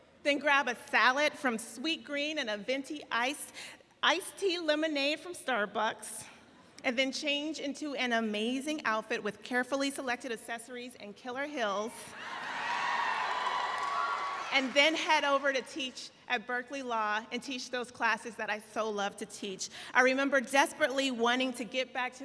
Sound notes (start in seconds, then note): 12.1 audience cheering